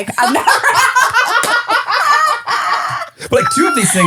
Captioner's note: laughing